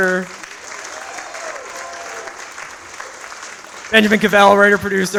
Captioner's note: audience applauds